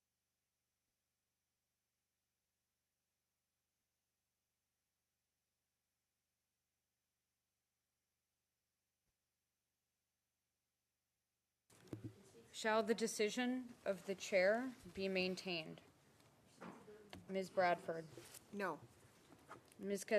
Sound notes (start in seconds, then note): 1.7 silence